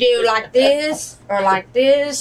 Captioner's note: laughs